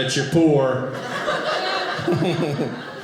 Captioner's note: audience laughing